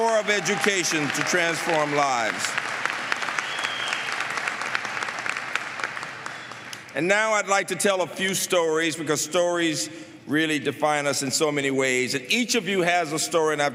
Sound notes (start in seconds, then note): 3.5 applause